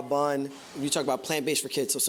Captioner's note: whooshing